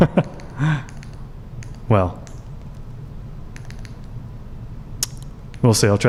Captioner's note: clicking